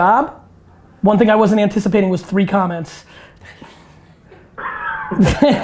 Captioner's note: laughs; group laughter